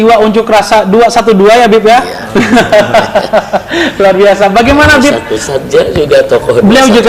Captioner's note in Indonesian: tertawa